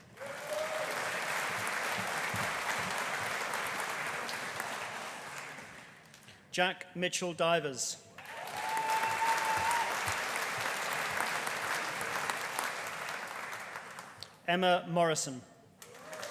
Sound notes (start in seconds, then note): 0.0 audience applauding; 8.2 audience cheering; 8.2 audience applauding; 15.8 audience applauding